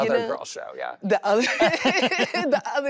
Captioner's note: laughs